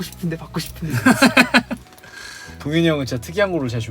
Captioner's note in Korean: 웃음